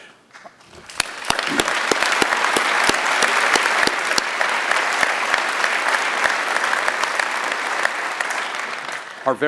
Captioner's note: applause